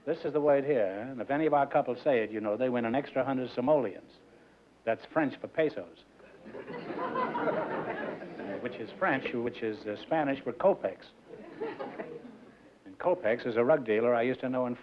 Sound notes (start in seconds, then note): 6.3 laughter